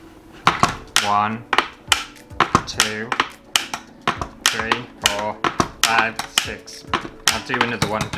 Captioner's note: loud Clicking Sounds